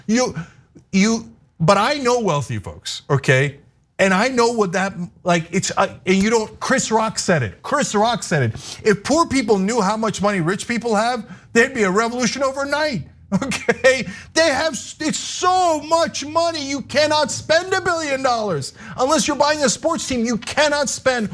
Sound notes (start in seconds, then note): 13.3 laugh